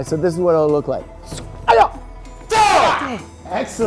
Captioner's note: martial arts noises